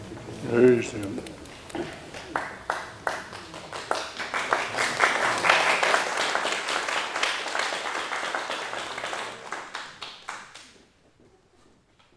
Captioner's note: applause